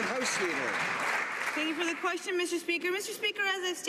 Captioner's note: some Applause